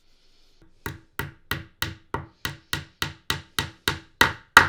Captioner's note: hammer banging